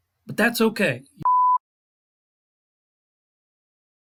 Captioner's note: beep